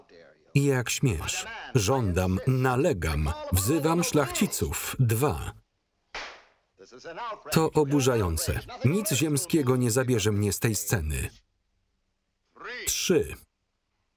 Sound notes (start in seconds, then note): 6.1 clap